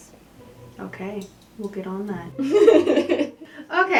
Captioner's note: laughter